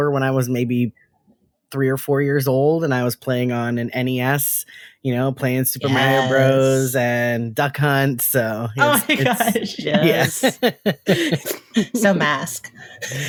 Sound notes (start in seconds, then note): 8.7 laughing